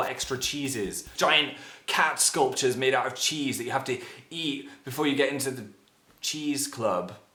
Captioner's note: inhale